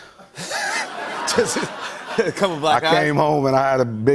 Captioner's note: laughter